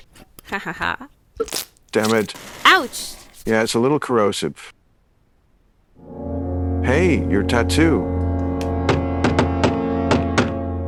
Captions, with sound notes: Ha ha ha. [NUTRI-PASTE SPURTS] Damn it! Ouch! Yeah, it's a little corrosive. Hey! Your tattoo! [KNOCKING AT THE DOOR]